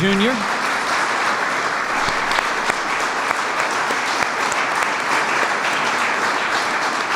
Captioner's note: applause